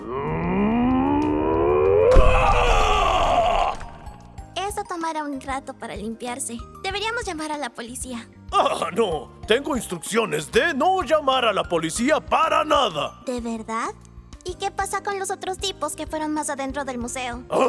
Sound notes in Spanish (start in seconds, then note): 0.1 Sonidos de forcejeo; 2.1 explosión